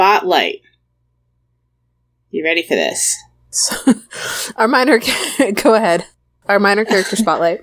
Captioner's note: laughs